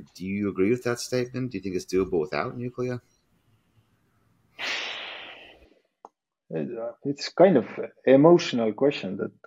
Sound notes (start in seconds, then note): 4.8 sighs